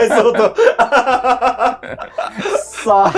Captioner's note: laughing